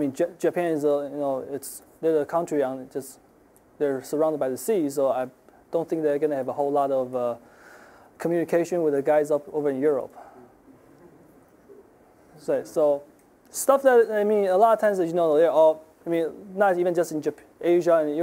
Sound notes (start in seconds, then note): 11.0 audience chuckling